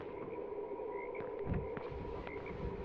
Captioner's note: footsteps